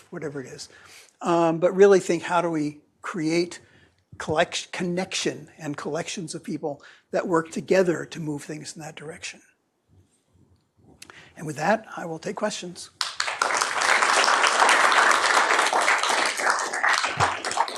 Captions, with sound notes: whatever it is. But really think, how do we create connection and collections of people that work together to move things in that direction. And with that, I will take questions. [APPLAUSE]